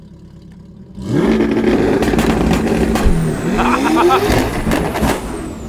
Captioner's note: C8 engine revs loudly